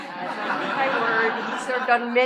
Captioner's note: laughter